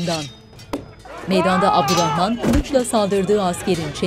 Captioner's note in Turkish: Bağırma sesleri